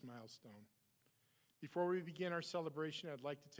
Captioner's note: none